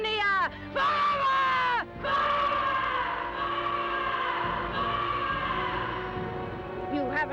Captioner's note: voice echoes